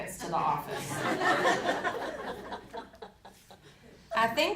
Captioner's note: audience laughing